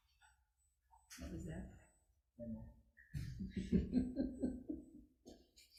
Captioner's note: laughs